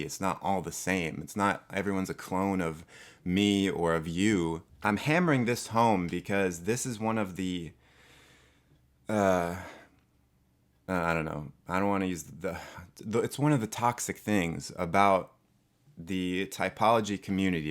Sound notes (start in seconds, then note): 12.3 another defeated sigh